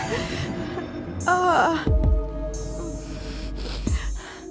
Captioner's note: Madeleine moaning softly